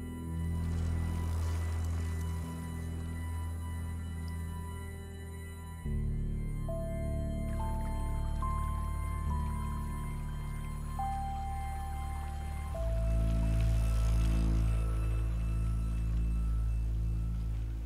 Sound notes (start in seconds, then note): 0.4 bike rattling; 7.1 water flowing; 12.0 bike rattling